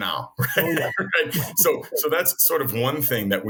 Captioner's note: laughing